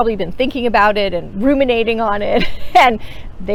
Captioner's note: laughs